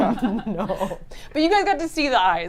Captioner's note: group laughs